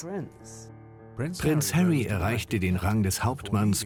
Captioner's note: voiceover